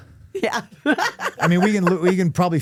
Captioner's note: laughs